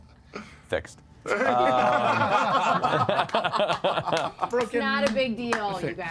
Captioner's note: laughter